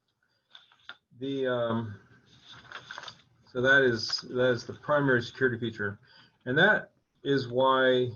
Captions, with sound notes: (papers rustling) That is the primary security feature.